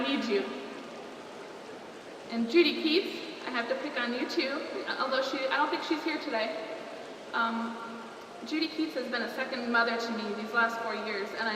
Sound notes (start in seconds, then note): none